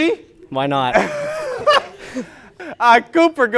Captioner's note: laughing